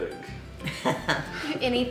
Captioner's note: laughing